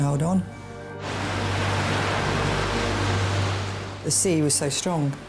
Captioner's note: waves crashing